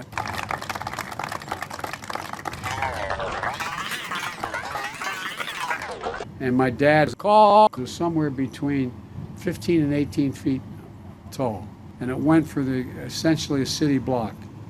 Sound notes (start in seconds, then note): 0.0 audience applause; 2.4 wavy, distorted applause